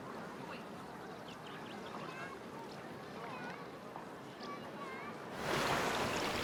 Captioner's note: birds chirping; people chattering; water swooshing